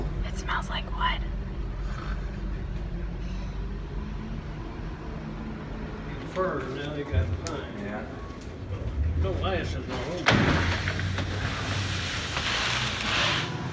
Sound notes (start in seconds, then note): 10.4 wood scraping